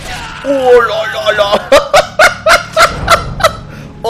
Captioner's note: giggles